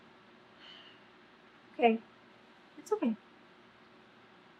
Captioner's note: exhales loudly